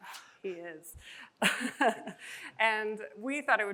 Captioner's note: chuckles